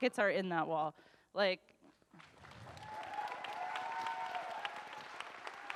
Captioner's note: audience cheers and applauds